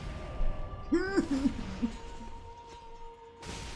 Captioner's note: laughs